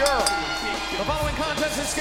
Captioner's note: bell rings